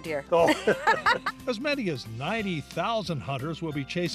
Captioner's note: laughs